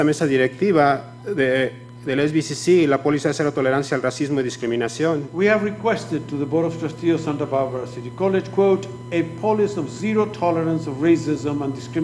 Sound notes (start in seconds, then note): 8.0 speaking foreign language